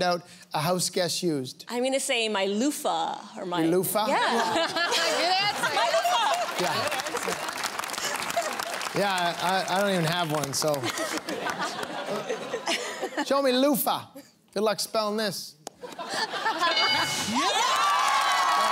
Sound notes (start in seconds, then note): 5.9 applause; 10.8 laughter; 16.6 bell dings; 16.6 cheers